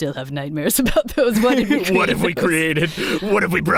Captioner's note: laughs